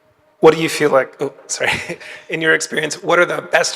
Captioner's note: chuckles